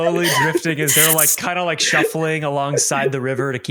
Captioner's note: laughter